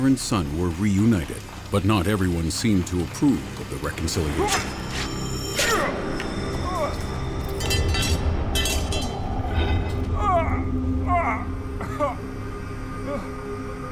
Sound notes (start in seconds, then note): 5.1 both gasping; 11.0 Philip groans